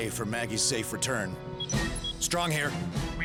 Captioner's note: communicator beeps